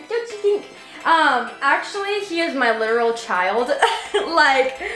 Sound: laughs

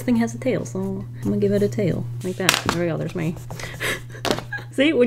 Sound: laughs

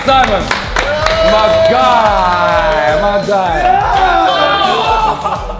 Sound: group cheers and applauds

